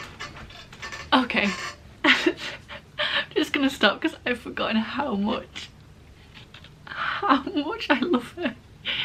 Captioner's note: laughs; laughing